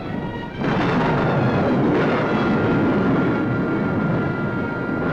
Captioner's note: thunder crashing